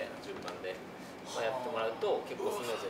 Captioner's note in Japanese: 感嘆